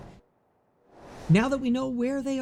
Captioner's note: air whooshes